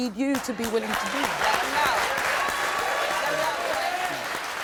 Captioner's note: crowd cheering